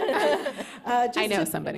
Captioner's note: laughter